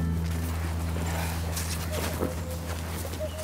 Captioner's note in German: Kuckucksruf